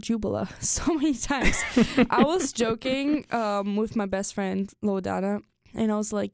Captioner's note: chuckles